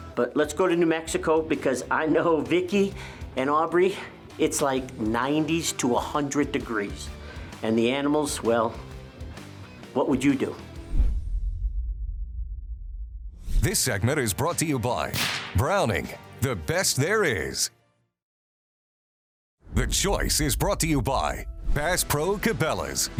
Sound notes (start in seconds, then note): 10.8 logo swooshing